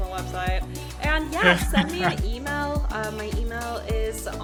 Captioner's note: chuckling